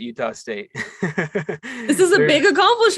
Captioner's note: laughs